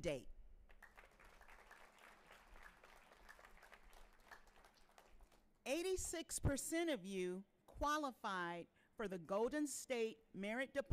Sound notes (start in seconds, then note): 0.7 audience cheering and applauding